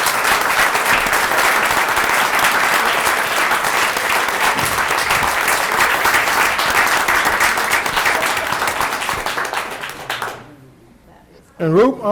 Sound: applause

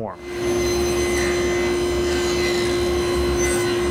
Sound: cutting wood

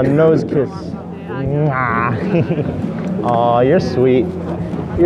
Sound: giggling

